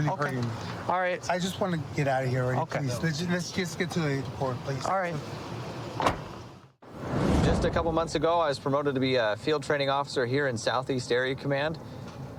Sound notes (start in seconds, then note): 6.0 car door closes